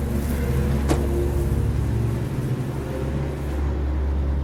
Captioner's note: engine revving; bags crackling